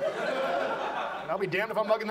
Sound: audience laughs

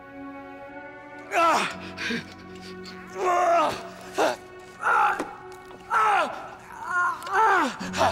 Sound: screaming

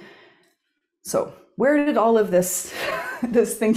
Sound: chuckles

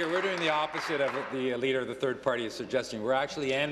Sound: applause

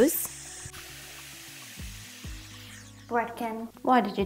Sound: water running

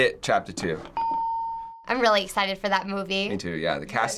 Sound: hitting bell; ding

